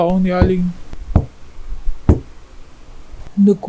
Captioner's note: knock knock knock